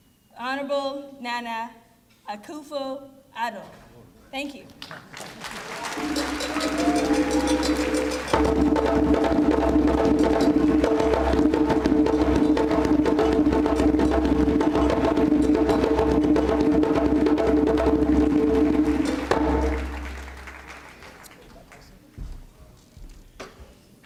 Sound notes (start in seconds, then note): 5.9 applause and Drumming